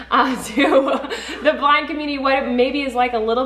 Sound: laughs

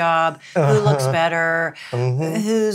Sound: chuckles

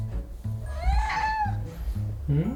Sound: meows

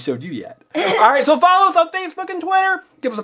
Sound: laughs

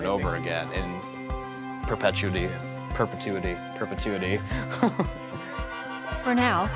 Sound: laughs

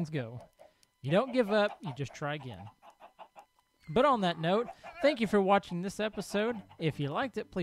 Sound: donkey brays; llama calls

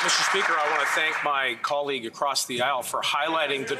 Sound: some Applause

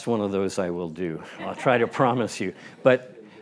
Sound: laugh

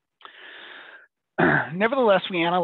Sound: clears throat

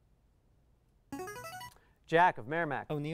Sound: player buzzer

